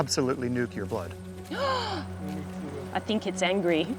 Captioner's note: gasps